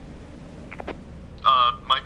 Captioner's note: Walkie Clicks